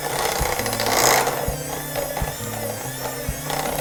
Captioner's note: mixer whirring